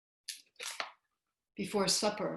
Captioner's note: silence